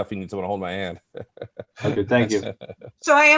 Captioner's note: laughs